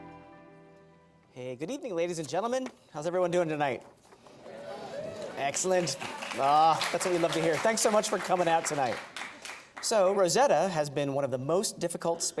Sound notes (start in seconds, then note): 4.5 various positive responses from audience; 4.7 applause